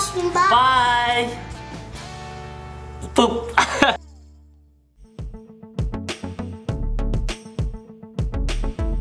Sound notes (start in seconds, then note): 3.5 laughing loudly; 5.6 upbeat music